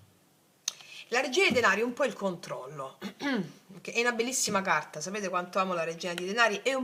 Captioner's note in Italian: schiarire la voce